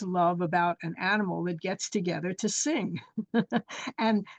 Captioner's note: chuckles